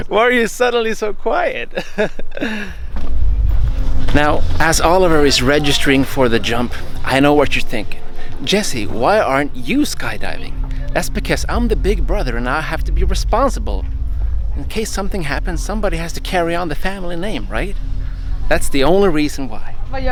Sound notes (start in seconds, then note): 1.7 laughing